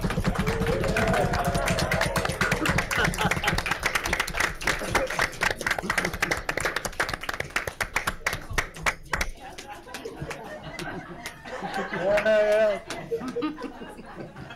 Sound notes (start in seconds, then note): 1.5 cheering; 2.4 laughing